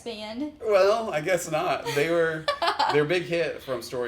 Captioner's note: laughs